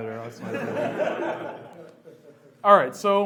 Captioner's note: laughs